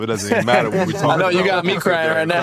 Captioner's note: all laughing